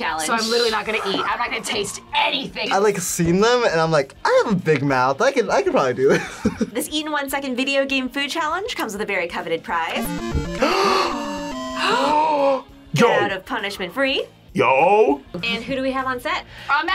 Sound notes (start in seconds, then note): 6.3 laughs; 10.4 both gasp